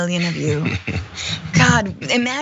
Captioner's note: laugh